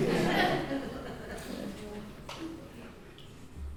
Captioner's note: laughing